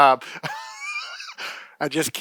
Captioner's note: laughs